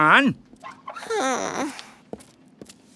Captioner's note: sighing